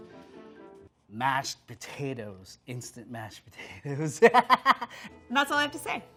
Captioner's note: laughs